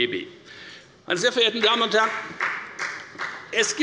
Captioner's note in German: Beifall bei der FDP